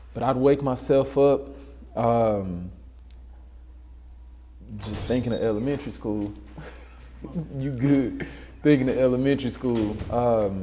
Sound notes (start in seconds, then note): 4.7 door opens; 6.6 laughs